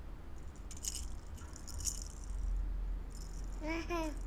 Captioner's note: baby rattle shaking